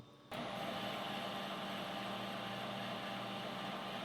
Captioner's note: machine whirring